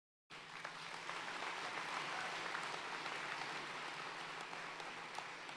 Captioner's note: audience cheering and applauding